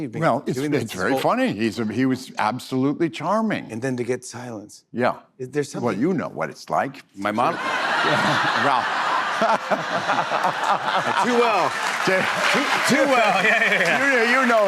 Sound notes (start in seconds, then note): 7.4 laughter